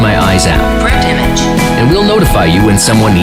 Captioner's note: robotic Assistant